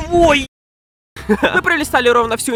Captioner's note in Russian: кхе-хе